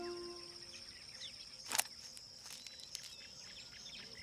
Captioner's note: birds calling, insects chirping